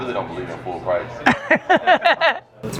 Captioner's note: Gary laughs